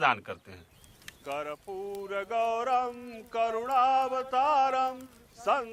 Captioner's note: chanting in foreign language